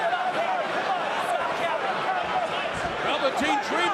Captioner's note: crowd chatter